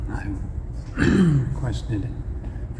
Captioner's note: clearing throat